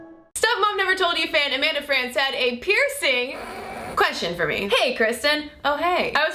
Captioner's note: snorts